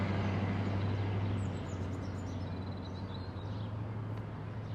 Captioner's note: birds chirping